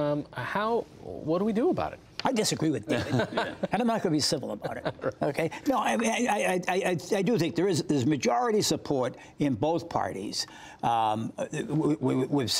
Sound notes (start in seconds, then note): 2.9 laughter